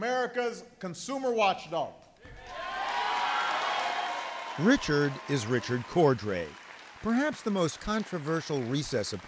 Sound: cheering and applause

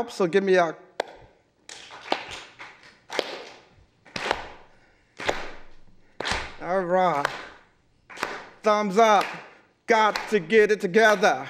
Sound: clapping a beat

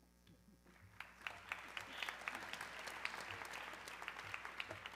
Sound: audience clapping

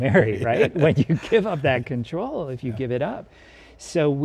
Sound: laughs

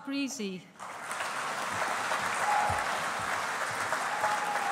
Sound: audience applauding

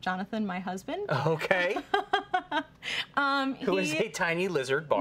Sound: giggling

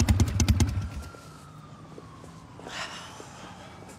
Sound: engine stops; siren wailing in distance; sighs

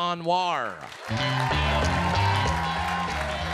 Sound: audience applauds; upbeat music

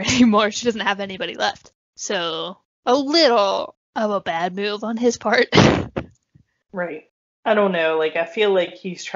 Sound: kaughs

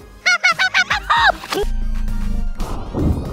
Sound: fast reverse laughing; super slo-mo sploooooshing & laughing

